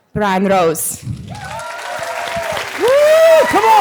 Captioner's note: audience applause